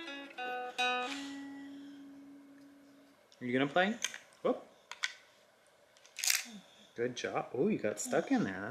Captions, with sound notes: Are you gonna play? (object cracking) Good job. Oh, you got stuck in there.